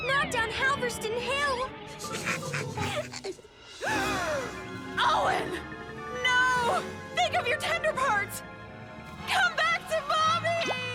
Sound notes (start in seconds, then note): 2.0 laughing